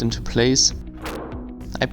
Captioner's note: bang